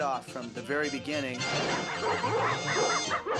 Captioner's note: all barking